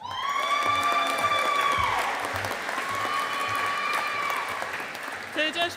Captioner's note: audience applauding